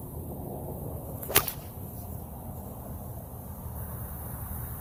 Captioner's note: sling whip-snaps sharply